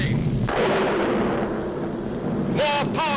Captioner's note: lightning cracks